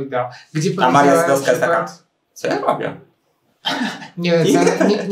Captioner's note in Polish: śmiech